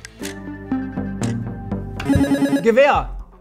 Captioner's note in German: Buzzer